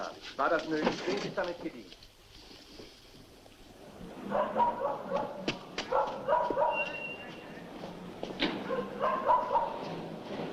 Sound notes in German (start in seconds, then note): 4.2 Hund bellt